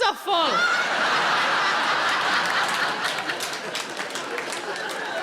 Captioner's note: audience laughing